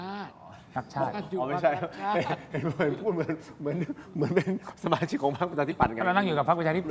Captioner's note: laughter